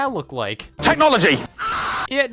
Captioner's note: amish Scott screams